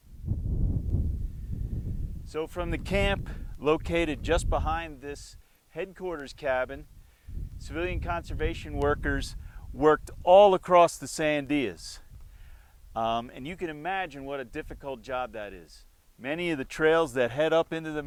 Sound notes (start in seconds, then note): 0.0 wind blows